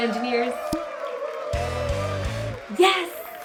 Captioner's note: applause